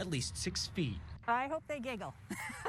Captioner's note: laughs